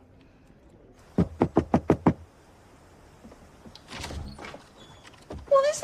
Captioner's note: knocking